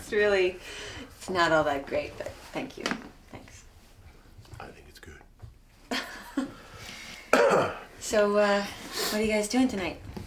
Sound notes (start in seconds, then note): 5.0 chuckles; 5.0 coughs